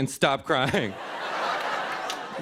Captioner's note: laughter